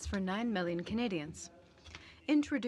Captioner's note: speaking french